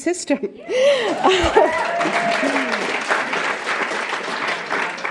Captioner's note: applause